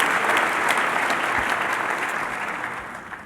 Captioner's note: applause